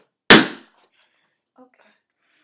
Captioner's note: balloon pops